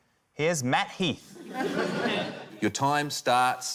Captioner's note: laughter